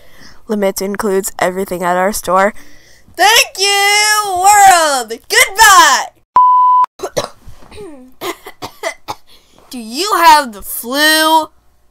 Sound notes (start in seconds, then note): 7.0 coughing and hiccupping